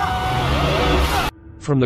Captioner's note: car crashes